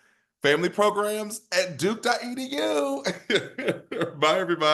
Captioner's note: laughs